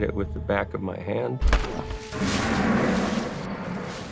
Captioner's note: growling